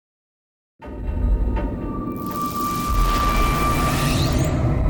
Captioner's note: electricity crackles